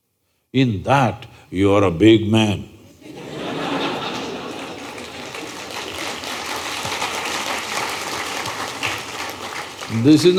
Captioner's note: laughter/Applause